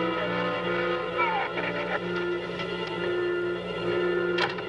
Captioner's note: shrews squeaking